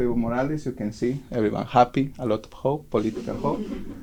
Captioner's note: background laughter